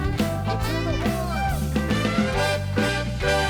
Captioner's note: upbeat music; audience applauds; upbeat music